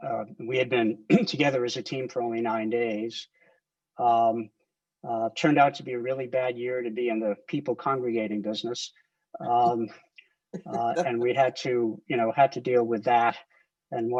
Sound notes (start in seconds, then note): 10.6 laughs